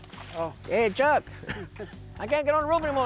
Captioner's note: chuckles